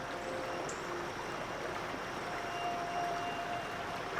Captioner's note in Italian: Scorrere dell'acqua